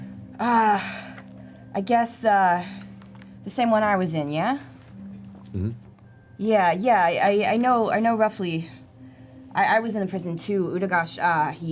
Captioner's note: sighs